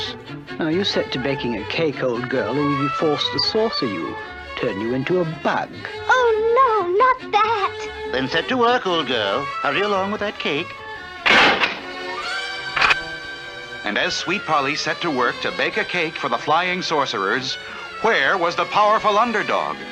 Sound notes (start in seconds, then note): 11.2 door Closes & then locks